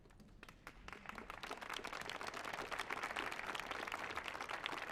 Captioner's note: audience applauds